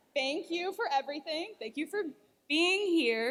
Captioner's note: none